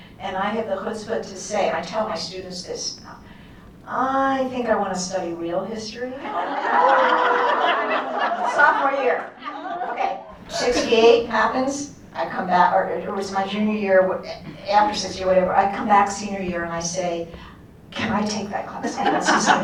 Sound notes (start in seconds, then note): 6.2 laughter; 9.3 laughter continues